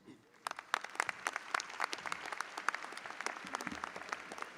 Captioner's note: audience applauding